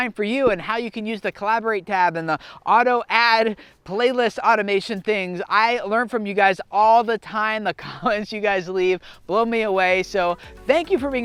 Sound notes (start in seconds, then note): 7.9 chuckles; 10.0 lighthearted music